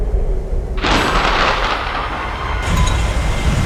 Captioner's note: thunder